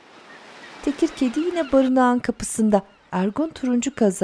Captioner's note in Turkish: Martı sesleri